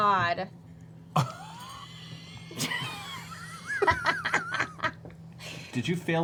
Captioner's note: laughter